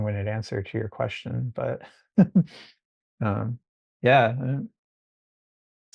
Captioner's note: chuckling